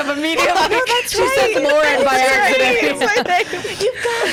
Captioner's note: laughs